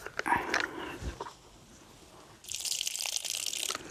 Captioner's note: water pouring